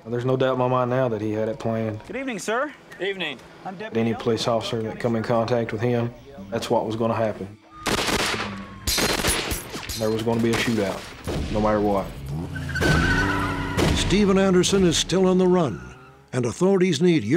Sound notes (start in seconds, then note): 7.8 gunfire